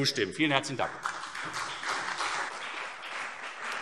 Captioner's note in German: Beifall CDU und BÜNDNIS 90/DIE GRÜNEN